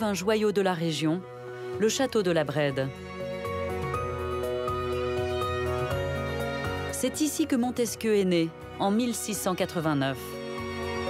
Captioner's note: Respire